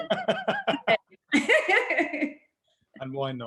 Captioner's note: laughing